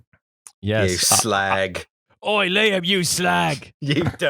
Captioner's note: cockney accent